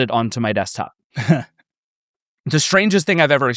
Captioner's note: chuckles